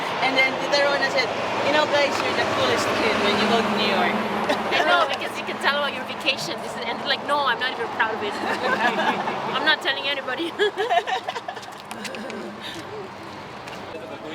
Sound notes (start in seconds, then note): 0.7 vehicle whooshing drowns out speaker; 10.4 laughing loudly